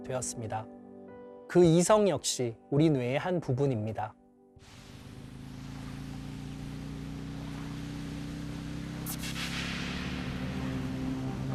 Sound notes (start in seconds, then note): 4.6 motorcycle driving